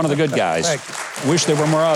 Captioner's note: audience applauding